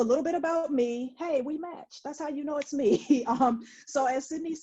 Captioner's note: laughs